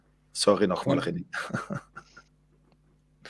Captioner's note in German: lacht